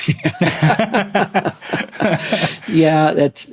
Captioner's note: laughing